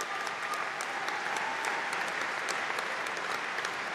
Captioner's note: applause